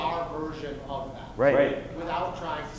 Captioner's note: voiceover